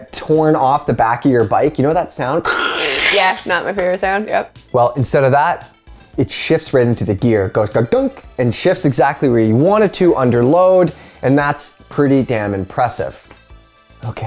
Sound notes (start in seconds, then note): 2.5 grinding ripping